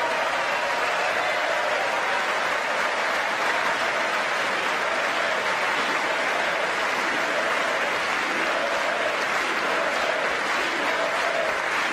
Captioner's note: applause